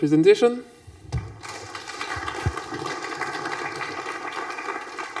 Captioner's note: applause